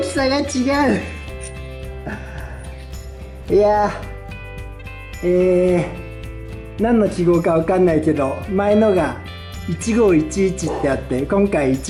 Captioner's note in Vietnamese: cười